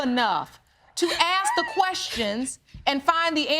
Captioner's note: sobbing